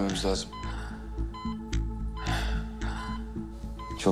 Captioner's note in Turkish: Yaşam destek cihazı çalışıyor